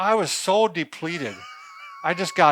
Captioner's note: laughs